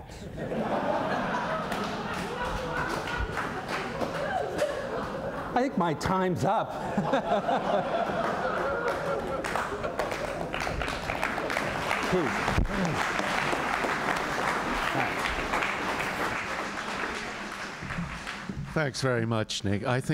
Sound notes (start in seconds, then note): 0.3 laughter; 6.8 laughter; 6.8 laughs; 9.1 applause